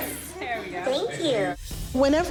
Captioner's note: robot talking